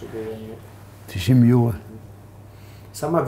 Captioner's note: continues in Hebrew